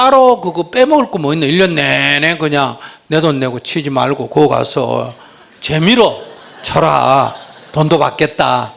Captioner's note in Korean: 청중 웃음